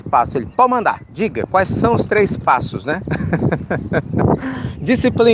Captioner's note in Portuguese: Risos